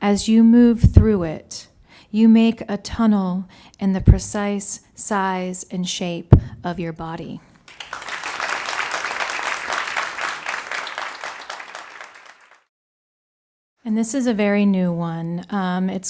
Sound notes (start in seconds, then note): 7.6 ^applause^